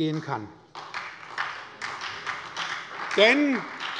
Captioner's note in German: Beifall bei der SPD